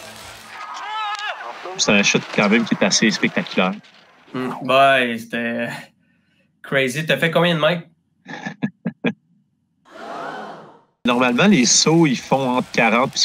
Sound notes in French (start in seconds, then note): 8.2 rires